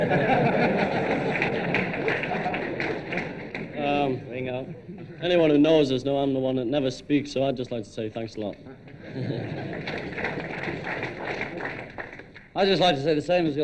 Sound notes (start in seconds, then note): 0.0 audience laughing; 0.0 audience clapping; 5.7 audience laughing; 8.7 audience laughing